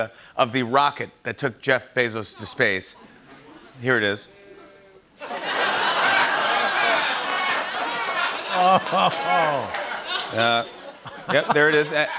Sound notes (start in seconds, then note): 5.2 laughter; 8.4 chuckling